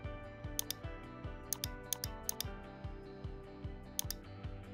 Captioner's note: mouse clicking